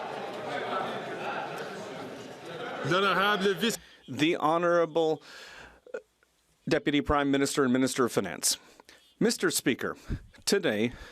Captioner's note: some Applause